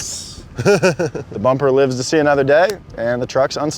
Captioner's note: chuckles